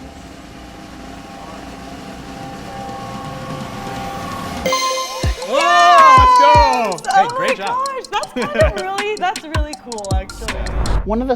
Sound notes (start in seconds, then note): 0.1 drum roll; 4.6 ding